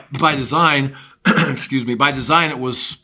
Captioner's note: clears throat